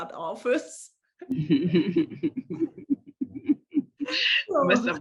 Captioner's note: laughter